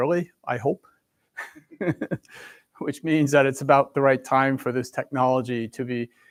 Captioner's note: chuckles